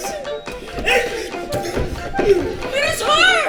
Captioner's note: gasps